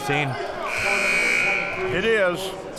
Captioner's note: buzzer ringing